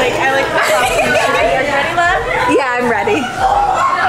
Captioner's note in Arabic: ضحك